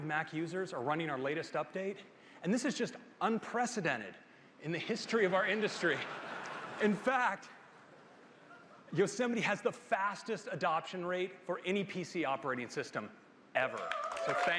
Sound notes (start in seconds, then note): 5.1 laughter